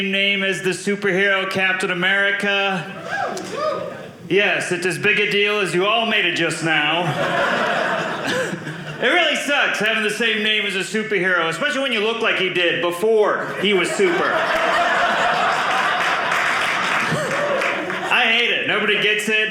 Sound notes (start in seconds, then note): 2.9 audience cheering; 7.0 audience laughing; 13.4 audience laughing